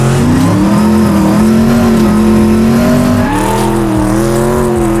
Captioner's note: engine growls; throttle revving; tires screeching